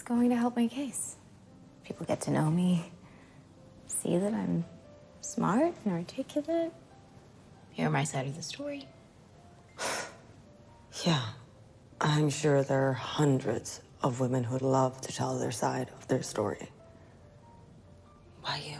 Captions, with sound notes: It's going to help my case.. If people get to know meme, see that I'm smart and articulate, hear my siside of the story. [Scoffing] Yeah, I'I'm sure there are hundreds of women who would love to tell their side of their story.